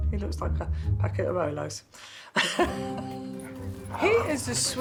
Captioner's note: laughs